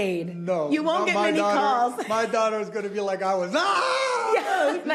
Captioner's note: excited screaming